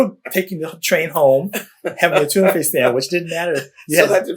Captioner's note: laughter